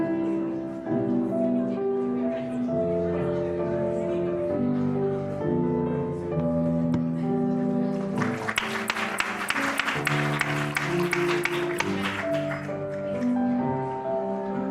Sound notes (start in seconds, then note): 7.9 applause